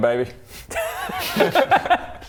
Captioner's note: laughs